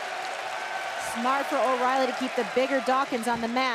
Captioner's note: crowd cheering